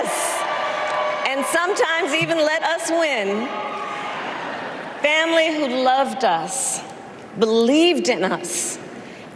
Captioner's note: applause